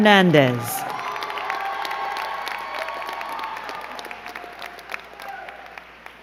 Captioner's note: crowd cheering and clapping